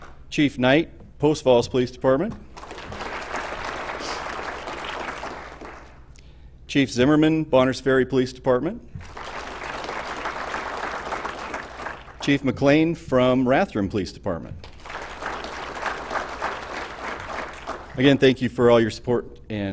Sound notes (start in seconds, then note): 2.5 applause; 9.0 applause; 14.6 applause